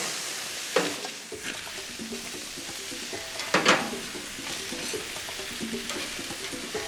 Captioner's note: hens sizzling; upbeat music